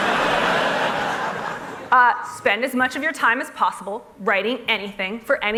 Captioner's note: laughter